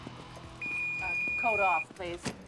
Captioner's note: beeping